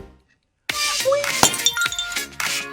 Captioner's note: crash